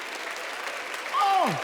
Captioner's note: applause